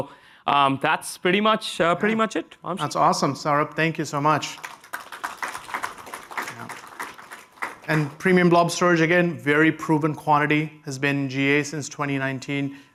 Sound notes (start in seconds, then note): 4.4 applause